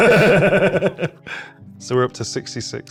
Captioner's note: chuckling